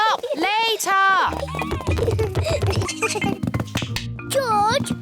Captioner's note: both giggle